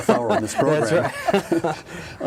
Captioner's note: laughing